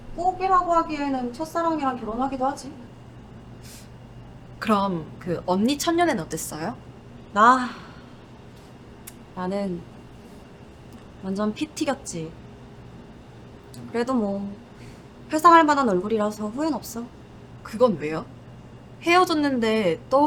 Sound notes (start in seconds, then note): 7.6 sighs